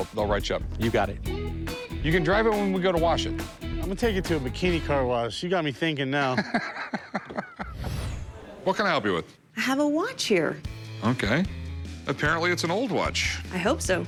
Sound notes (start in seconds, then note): 6.3 laughs